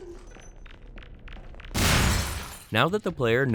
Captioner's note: explosion